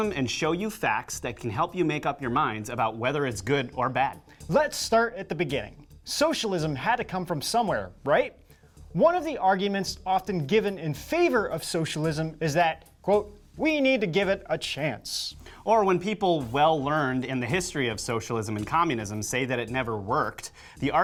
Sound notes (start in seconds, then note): none